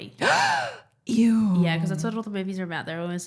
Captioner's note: gasps loudly